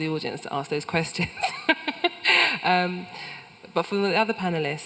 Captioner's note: laughs